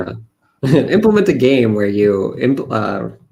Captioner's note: chuckles